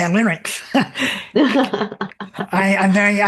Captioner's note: laugh